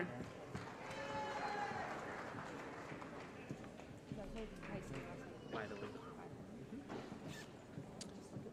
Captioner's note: applause